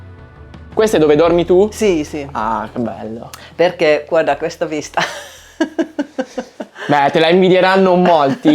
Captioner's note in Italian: risate